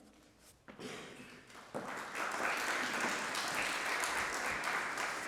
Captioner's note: applause